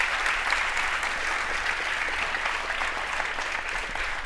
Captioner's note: audience applauds